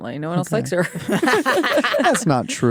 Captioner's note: laughter